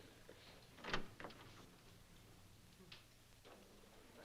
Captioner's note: door opens